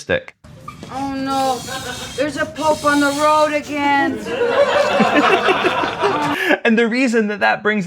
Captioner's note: laughter